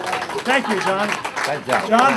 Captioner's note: clapping